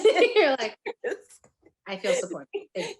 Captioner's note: both laughing